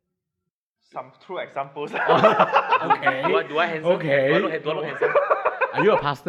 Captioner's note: laughs